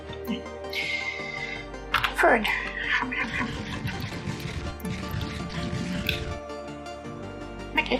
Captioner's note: crunching noises